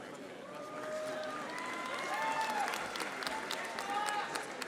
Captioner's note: audience applauding